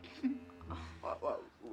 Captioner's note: chuckl es